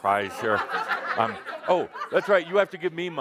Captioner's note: laughter